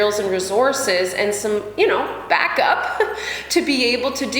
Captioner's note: laughs